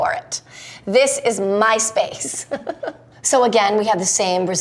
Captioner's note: Ellen giggling